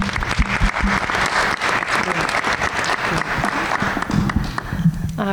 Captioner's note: everyone applauds